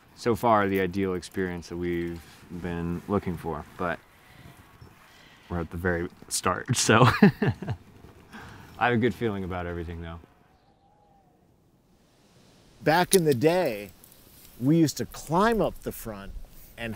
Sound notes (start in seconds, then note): 6.9 laughs